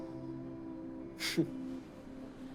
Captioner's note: chuckles